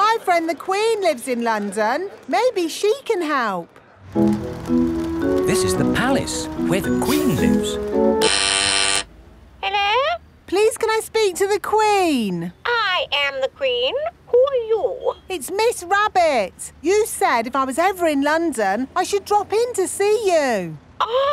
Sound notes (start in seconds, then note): 8.1 doorbell ringing; 9.9 over intercom